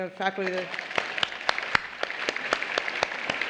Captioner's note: applause